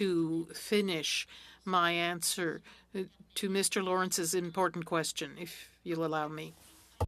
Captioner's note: speaking French